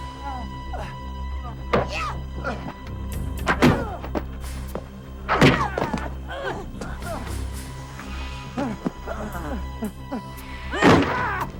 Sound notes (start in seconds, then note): 3.5 kick thudding